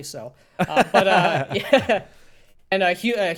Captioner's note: laughing